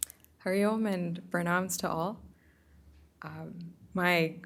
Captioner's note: hindi